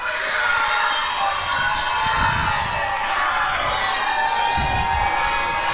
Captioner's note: applause and cheering